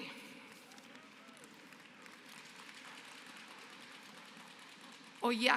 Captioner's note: applause